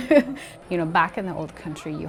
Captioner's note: laughs